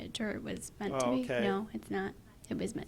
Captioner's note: voiceover